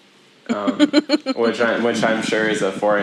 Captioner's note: laughs